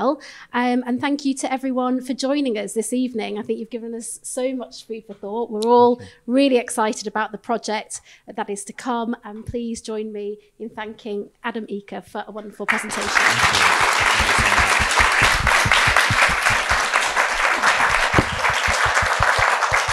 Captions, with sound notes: And thank you to everyone for joining us this evening. I think you've given us so much food for thought. We're all really excited about the project that is to come. And please join me in thanking Adam Eaker for a wonderful presentation. - Thank you, thank you so much. (audience applauding)